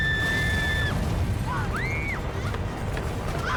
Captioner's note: yelling